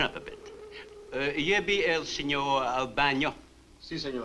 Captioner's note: Marlowe speaks Spanish; Mario speaks Spanish